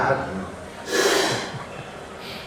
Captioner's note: hissing